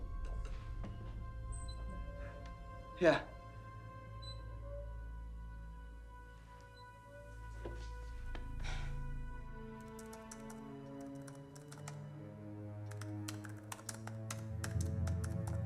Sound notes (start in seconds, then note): 7.5 footstep; 13.7 clap